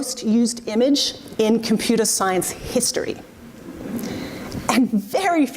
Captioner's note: audience murmurs